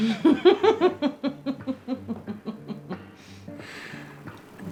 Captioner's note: laughing